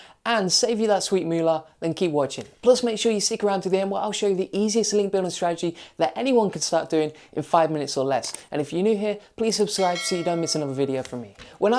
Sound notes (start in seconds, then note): 9.7 dinging